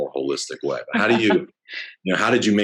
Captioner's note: laughs